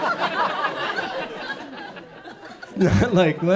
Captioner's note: audience chuckles